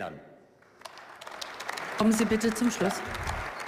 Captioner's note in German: Beifall